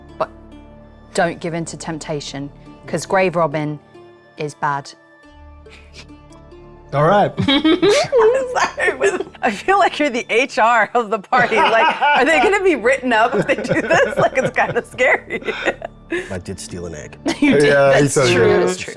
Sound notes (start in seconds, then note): 7.2 laughing; 7.3 giggling